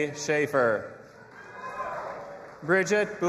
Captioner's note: audience applauding and cheering